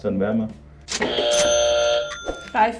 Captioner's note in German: Buzzer